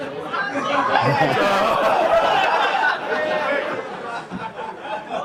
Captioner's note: laughter